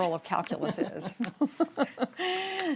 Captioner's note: laughter